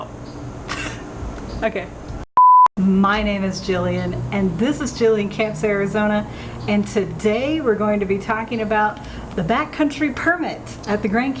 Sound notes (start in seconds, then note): 0.7 laughs; 2.3 beep